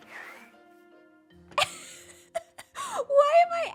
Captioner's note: laughs